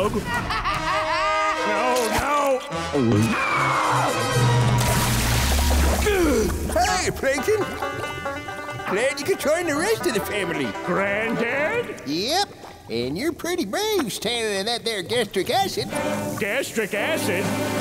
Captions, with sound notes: [laughing] No! No! [screaming] Hey, Plankton. Glad you could join the rest of the family. Granddad? Yep, and you're pretty brave standing in that there gastric acid. Gastric acid?